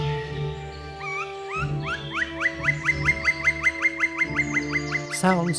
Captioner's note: woodpecker calling